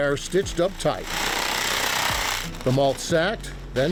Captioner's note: machine humming